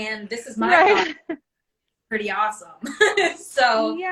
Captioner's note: laughs